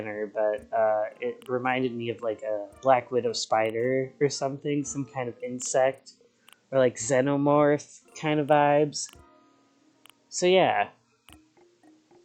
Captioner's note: belches